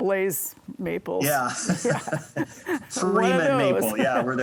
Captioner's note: both laughing